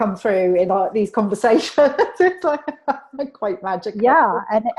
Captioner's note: laughs